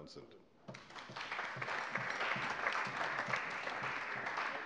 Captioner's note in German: Allgemeiner Beifall